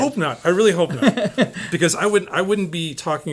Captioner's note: laughs